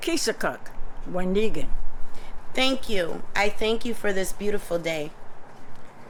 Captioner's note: non-english speech